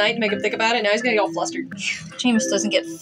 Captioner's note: scoff